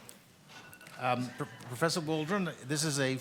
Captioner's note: audience laughs; alarm ringing